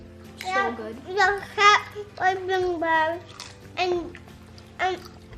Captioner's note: mumbles